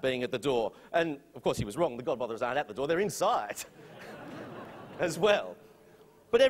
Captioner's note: laughter